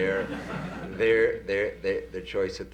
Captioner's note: laughter